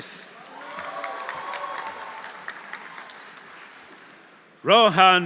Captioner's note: audience cheering; audience applauding